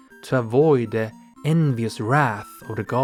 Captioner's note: none